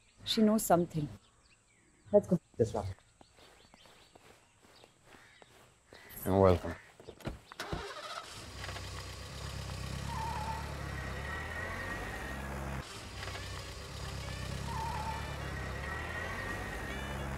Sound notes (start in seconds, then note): 7.6 Car engine starts